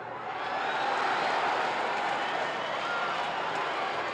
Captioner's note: crowd cheers